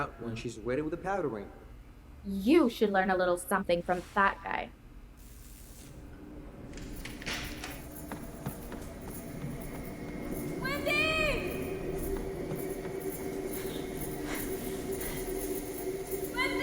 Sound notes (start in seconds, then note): 5.3 lights buzzing; 5.3 suspenseful music; 6.6 door opens; 13.4 woman panting